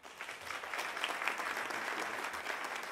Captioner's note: applause